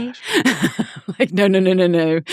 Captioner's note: laughing